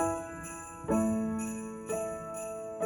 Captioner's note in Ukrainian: дзвін